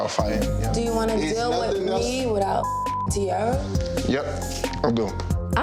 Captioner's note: beep